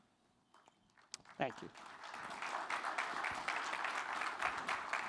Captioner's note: applause